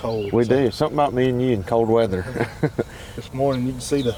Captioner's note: laughs